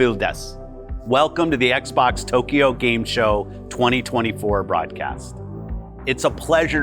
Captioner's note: Phil speaking Japanese; in English